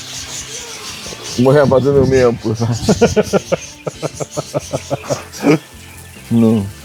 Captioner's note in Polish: śmiech